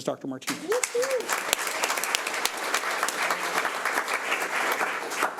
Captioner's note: audience applauds